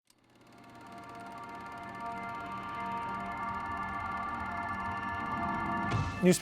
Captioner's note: reel clacking; soft bright music